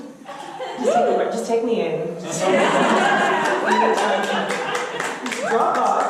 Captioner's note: audience laughter; audience laughter